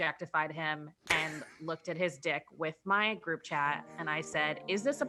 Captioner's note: laughing